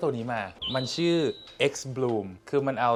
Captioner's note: an automatic coffee dripping machine